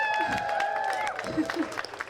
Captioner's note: crowd cheers